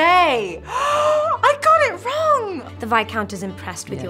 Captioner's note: gasping